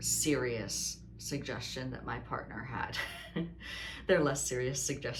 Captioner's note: laughs